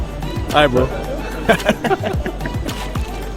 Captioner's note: both laughs